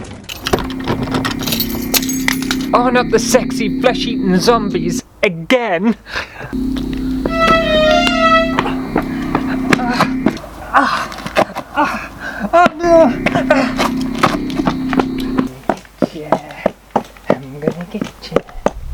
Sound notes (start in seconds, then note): 0.3 keys Rattling; 6.1 fast foot steps/panicked noises; 18.7 clunky Footsteps